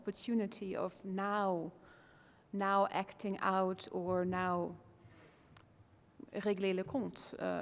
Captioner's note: foreign language